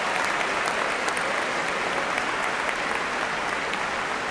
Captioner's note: cheers and applause